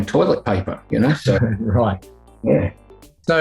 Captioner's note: laughing